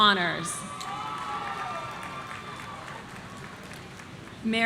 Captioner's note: audience cheering